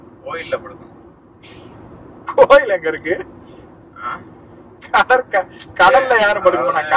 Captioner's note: Laughs